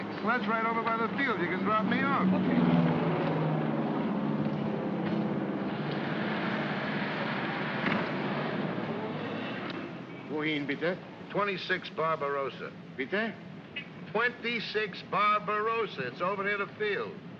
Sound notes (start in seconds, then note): 3.3 aircraft rumbles overhead; 8.8 cab accelerates away; 10.2 in German